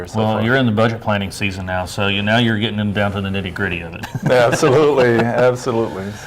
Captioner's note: laughs